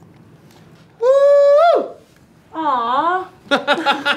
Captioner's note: silly noises; laughter